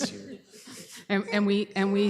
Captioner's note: laughter